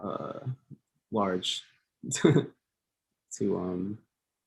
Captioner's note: laughs